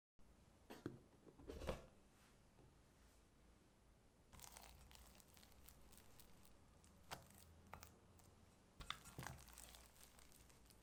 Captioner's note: folding